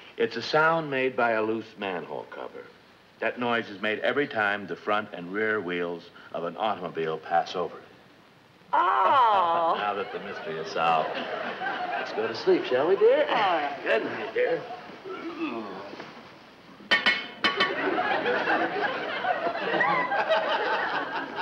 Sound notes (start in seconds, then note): 15.1 Brad groans; 16.8 metal clanking; 17.6 audience laughs